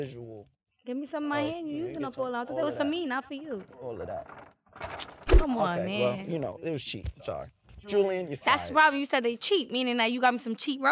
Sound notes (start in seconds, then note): 3.6 crinkling; 4.6 swishing